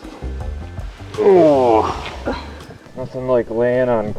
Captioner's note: grunting